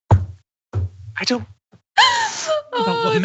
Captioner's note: laugh